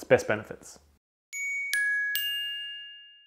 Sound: chimes

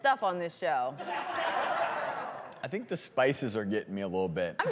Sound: crowd laughing

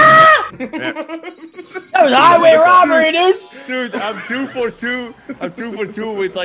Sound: laugh

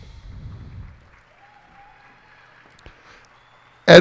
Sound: cheers and applause

